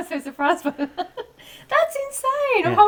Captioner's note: laughing